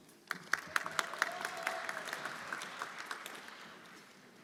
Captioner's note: everyone applauding